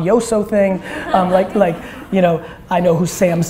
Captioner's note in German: Gelächter im Publikum